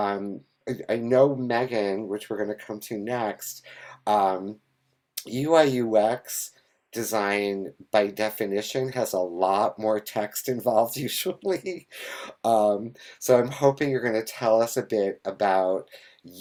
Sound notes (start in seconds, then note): 12.4 laughs